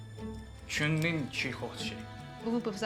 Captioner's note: talking in chinese